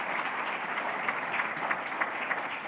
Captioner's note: applause